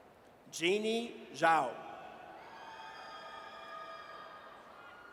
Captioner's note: audience cheers